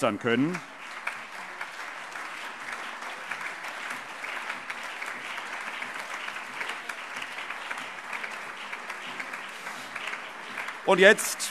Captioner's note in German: Allgemeiner Beifall